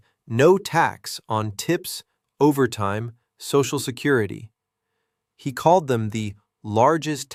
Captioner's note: sarcastic